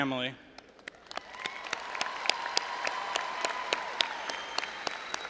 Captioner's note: all applauding and cheering